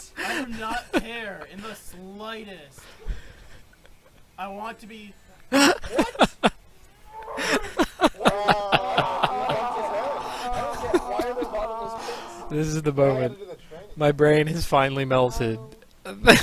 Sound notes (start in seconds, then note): 0.0 laughs; 5.5 cracks up; 16.1 still laughing